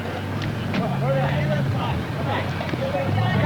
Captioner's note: indistinct chatter